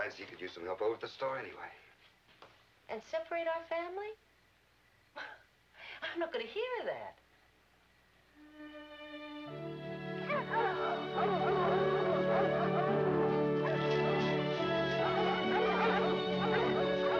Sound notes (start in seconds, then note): 8.4 gentle music; 10.2 dogs barking